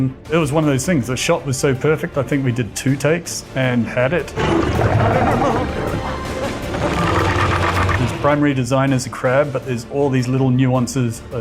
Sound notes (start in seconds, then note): 7.0 crab snarling